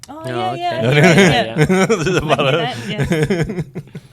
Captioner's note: laughs